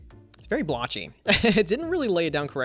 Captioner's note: laughs